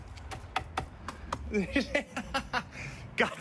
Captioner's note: laughs